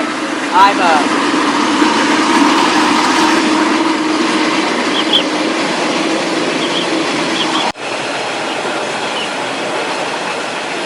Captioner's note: train Sound